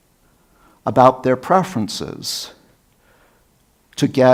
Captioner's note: none